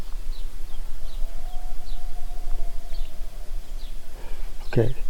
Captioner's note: distant howl